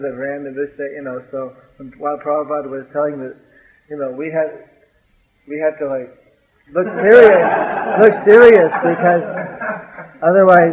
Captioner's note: laughter